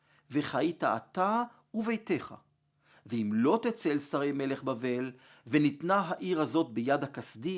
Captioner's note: Hebrew